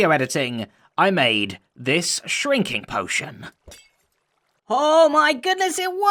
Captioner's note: glass breaks; squeaky voice